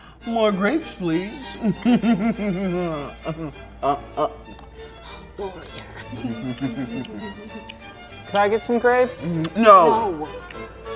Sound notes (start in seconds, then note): 1.6 chuckles